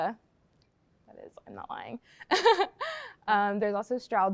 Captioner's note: laughs